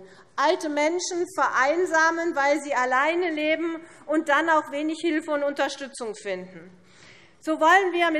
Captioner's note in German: none